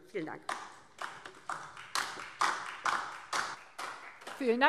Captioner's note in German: Beifall DIE LINKE